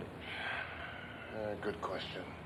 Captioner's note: Richard sighs